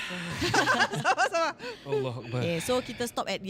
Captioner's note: everyone nervous laughters